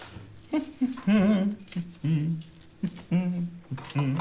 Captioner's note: Langdon humming